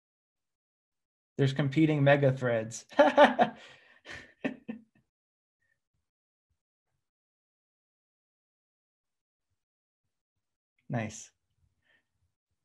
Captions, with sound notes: There's competing mega threads [chuckle] Nice